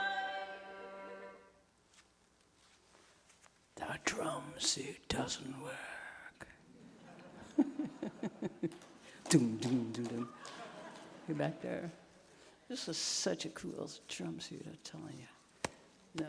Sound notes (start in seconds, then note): 6.8 audience chuckling; 7.4 chuckling; 9.5 imitating a drum